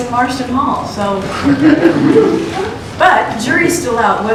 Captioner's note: laughter